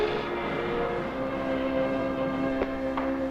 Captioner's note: sniffling